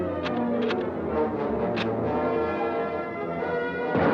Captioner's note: gun cocks